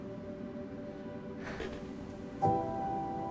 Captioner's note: sighs